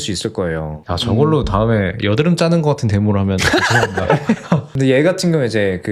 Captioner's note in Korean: 웃음